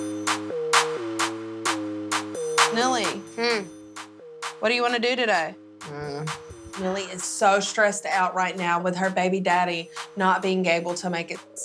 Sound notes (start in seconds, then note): 0.0 hip-hop music; 6.2 groans